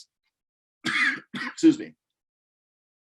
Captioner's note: coughs